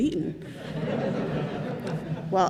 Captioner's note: congregation laughing